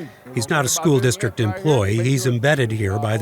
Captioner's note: speaking faintly